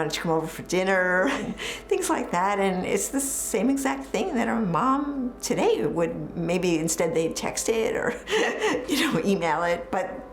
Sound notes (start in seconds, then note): 8.2 chuckles